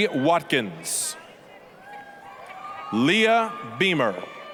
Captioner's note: applause, cheering